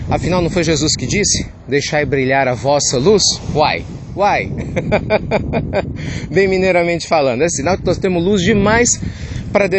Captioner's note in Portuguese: risos